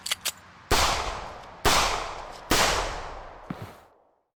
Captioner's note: gunshots